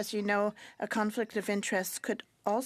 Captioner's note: speaking French